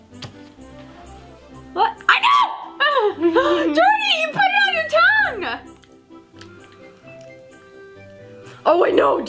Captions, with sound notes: (screams) Don't, you put it on your tongue. - Oh, I know, I know.